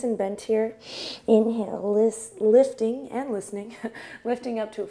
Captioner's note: chuckles